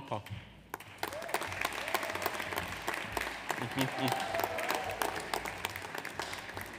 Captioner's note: audience applauds; audience cheers